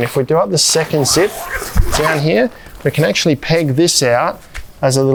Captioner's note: zipper whooshing